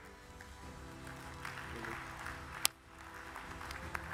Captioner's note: audience claps